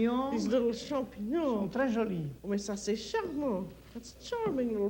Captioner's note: speaks French